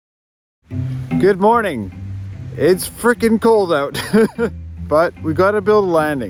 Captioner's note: laughs